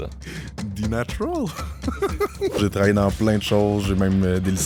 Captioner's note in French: rires